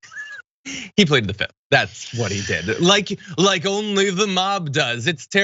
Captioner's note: laugh